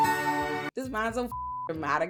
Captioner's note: beep